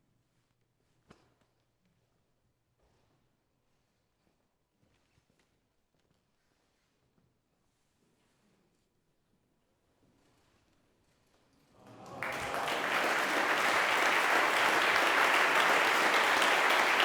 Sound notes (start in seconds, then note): 11.8 audience applauds